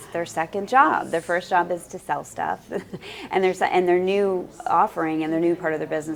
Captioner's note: laugh